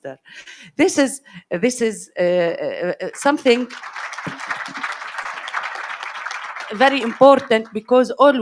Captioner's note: audience applauds